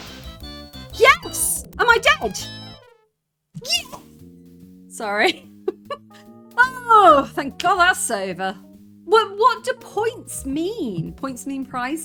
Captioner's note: laughing